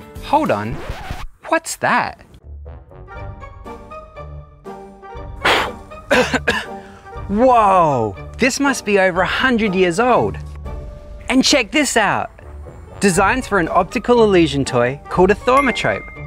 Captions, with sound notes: Hold on, what's that...? *Coughing* Whoa! This must be over a hundred years old. And check this out - designs for an optical illusion toy called a thaumatrope!